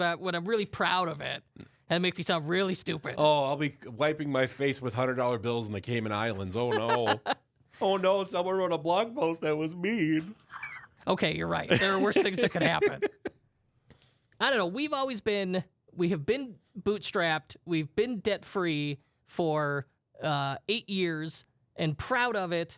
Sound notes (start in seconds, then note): 6.4 laughs